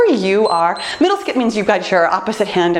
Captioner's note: timer beeps